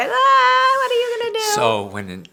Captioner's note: exclaiming